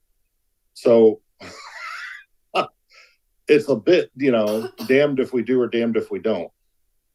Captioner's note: laughs